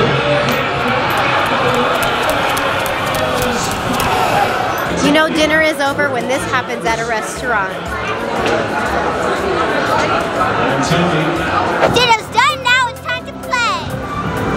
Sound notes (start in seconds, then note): 0.4 running footsteps; 14.3 playful music